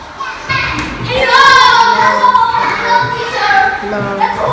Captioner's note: children yelling